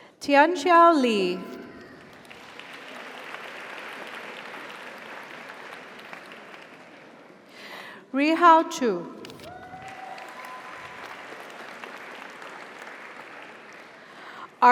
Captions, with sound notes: Tianxiao Li. (audience applauds) (audience cheers) Rihao Qu. (audience applauds) (audience cheers)